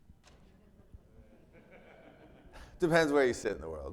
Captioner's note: attendee laughing